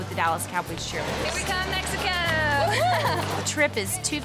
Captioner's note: laughs